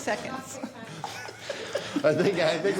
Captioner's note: laughing